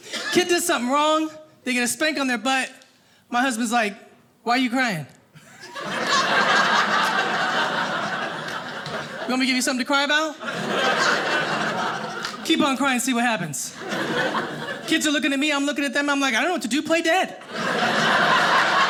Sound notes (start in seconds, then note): 5.4 audience laughing; 17.4 audience laughing